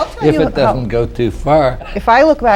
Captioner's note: laughs